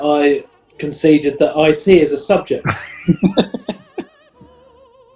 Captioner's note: chuckling